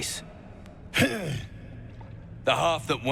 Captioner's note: grunts